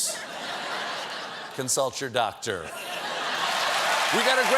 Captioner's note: laughter